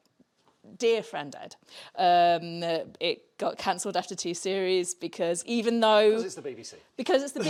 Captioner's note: laughs